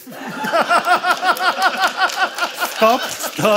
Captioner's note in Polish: śmiech